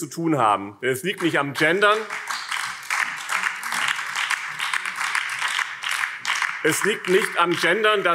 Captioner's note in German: Beifall BÜNDNIS 90/DIE GRÜNEN